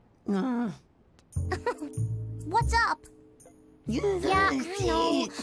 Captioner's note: laughs